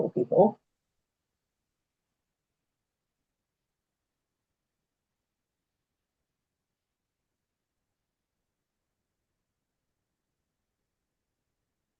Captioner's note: pause